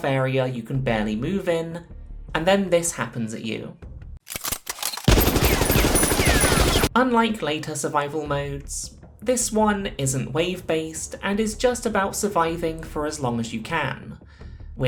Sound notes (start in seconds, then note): 4.2 gun clicks; 4.9 silly amount of gunfire